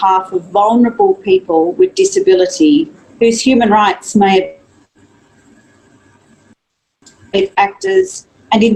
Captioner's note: audio distorts